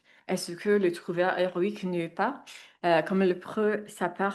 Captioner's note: speaks in French